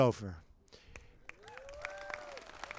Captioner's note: applause